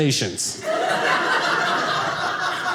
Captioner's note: audience laughing